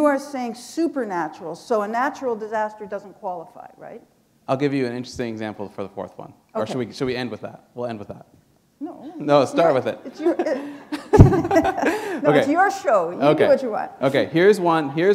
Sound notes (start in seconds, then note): 10.4 chuckle